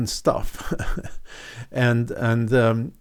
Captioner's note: chuckles